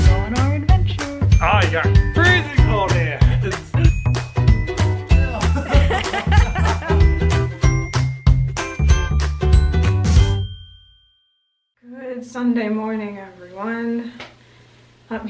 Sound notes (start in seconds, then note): 5.3 laughter; 7.6 upbeat music